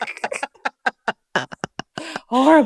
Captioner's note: laughter